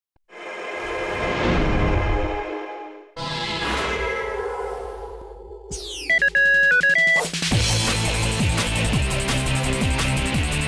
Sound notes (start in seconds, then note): 5.8 beeping noise; 7.1 theme music